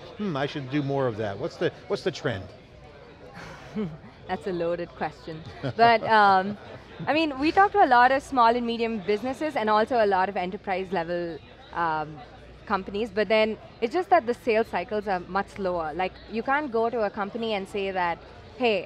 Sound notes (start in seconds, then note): 3.4 laughs